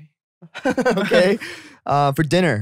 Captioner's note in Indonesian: tertawa